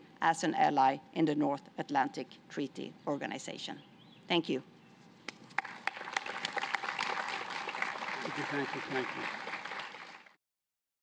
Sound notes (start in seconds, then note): 5.5 applause